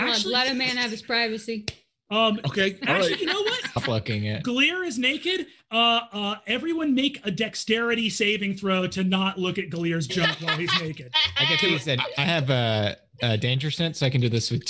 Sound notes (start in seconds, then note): 10.1 laughs